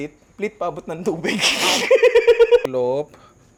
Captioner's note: laughs